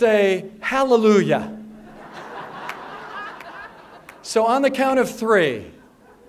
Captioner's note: laugher